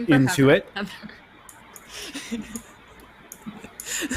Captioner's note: laughs